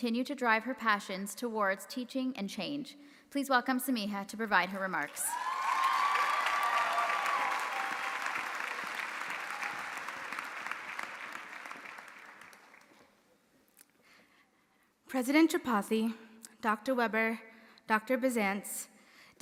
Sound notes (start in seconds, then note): 5.2 audience applauding; 5.2 audience cheering